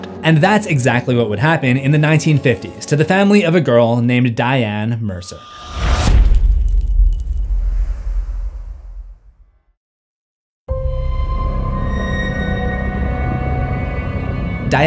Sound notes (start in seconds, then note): 5.5 impact